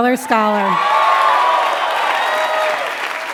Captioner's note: applause